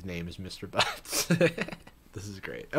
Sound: laughs

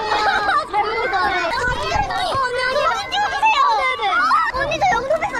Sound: laughing; excited Subscribers

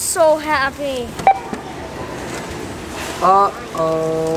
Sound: register beeping

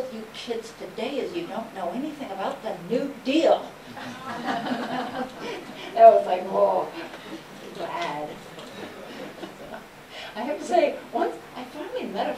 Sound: laughter

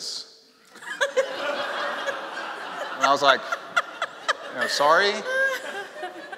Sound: laughing

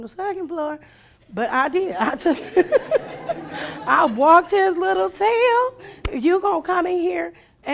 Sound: laughing

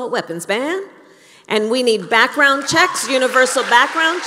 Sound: applause

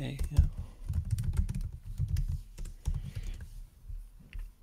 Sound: keyboard clacking

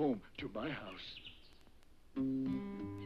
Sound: birds chirping; mellow guitar music

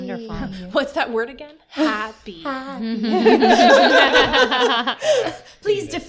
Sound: laughter

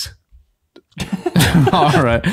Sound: all laughing

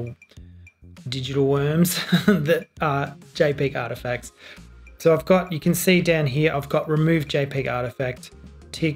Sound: laughs

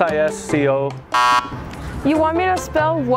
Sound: buzzer beeping

